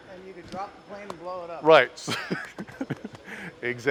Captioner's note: laughing